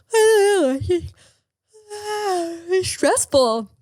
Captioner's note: yawning